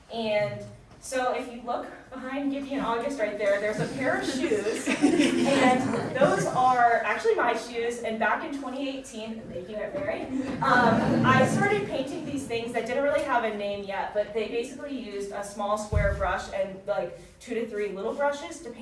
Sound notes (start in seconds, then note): 5.0 audience chuckling; 10.3 audience chuckling